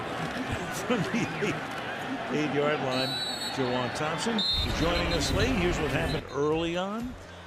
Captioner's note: laughs